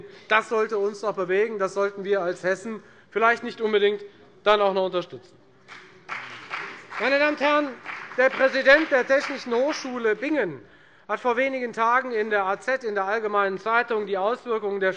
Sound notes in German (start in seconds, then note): 5.6 Beifall bei der FDP